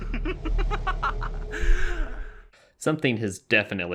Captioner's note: giggles